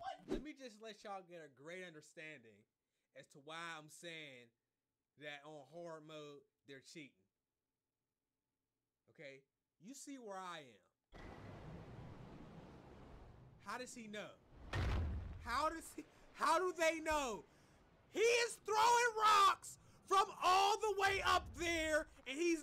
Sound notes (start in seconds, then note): 11.2 whooshing; 14.4 booming